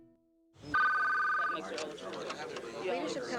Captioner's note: ring